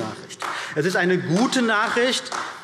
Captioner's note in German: Beifall